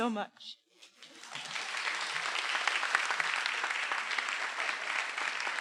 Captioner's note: everyone applauding